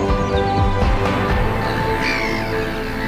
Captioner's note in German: Vogelschreie